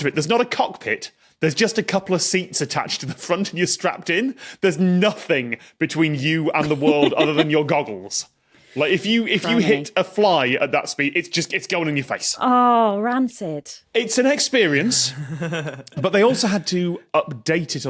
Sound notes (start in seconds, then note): 6.6 giggles; 15.2 shudders